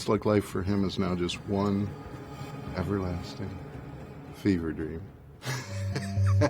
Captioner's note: laughs